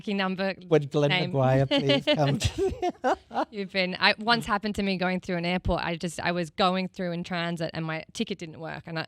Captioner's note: laughs